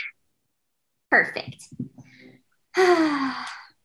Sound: sighs

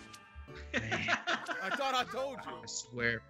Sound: laugh

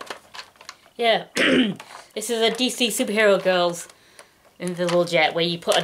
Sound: clears throat

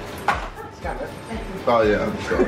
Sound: cake box thudding

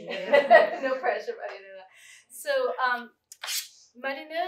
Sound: laughter

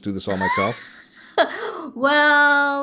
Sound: laughs

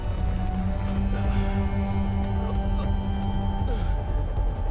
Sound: Shorya moaning

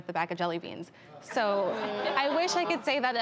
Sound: laughs

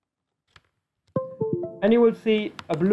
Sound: windows USB connection sound

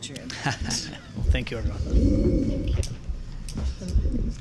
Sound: laughing

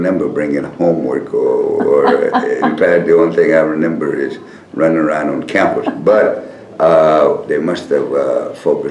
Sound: laughter

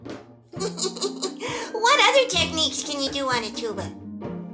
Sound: laughing

